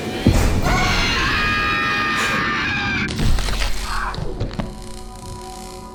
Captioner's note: screaming; thudding